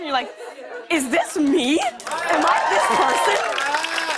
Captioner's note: cheers and applause